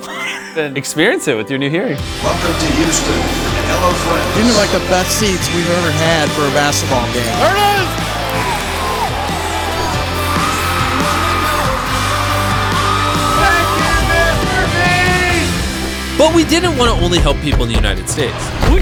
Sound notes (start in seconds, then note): 0.0 recipient laughs; 8.3 buzzer ringing; 8.3 crowd cheering; 12.2 rousing music